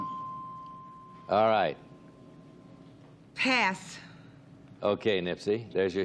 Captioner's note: bell dings